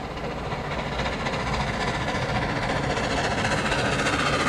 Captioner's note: train whirs